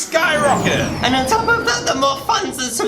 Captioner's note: rocket taking-off